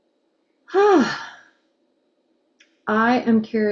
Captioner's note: sighs